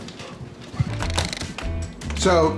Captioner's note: plastic rattles